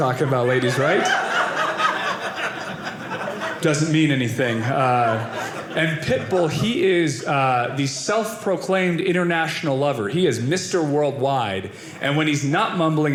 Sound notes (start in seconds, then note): 1.0 audience laughing